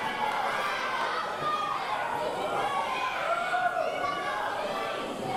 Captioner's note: audience cheering